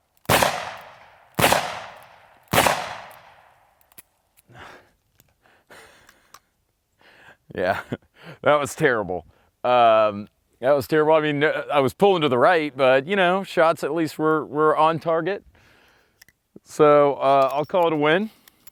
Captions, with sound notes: (gun shooting) (gun shooting) (gun shooting) Ya, that was terrible. That was terrible, I mean, I was pulling to the right. But, shots at least were on target. So, I'll call it a win.